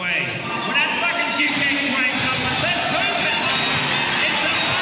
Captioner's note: gate crashes open